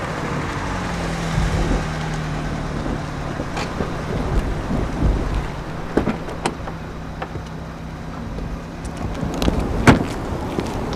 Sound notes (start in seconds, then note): 5.8 car door opening; 9.0 car door closing